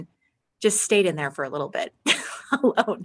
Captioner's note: laughing